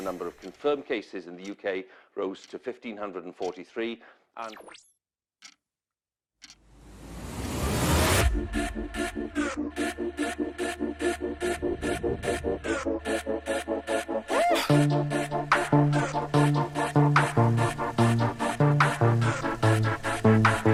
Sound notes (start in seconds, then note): 6.4 clock ticking; 8.0 upbeat music